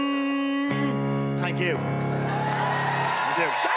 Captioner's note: Applaus